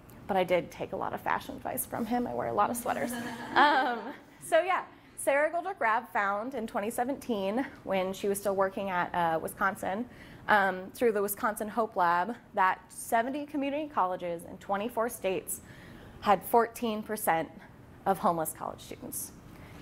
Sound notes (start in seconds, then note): 3.1 laughing